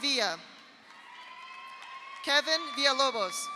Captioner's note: audience applauds; audience cheers